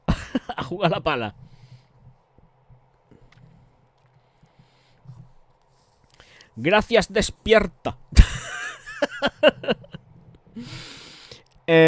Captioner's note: laughs